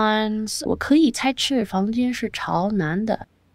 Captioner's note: speaking chinese